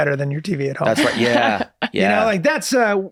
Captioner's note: laughs